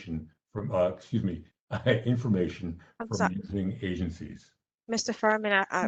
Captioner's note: laughter